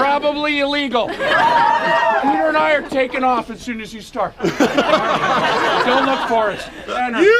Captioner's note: laughs